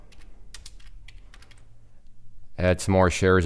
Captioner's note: keyboard clicking